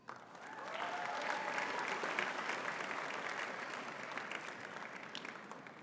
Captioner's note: audience cheering and clapping